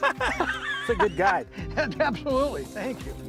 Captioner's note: laughter